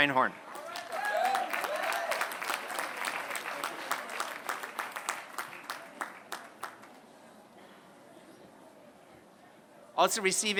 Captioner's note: applause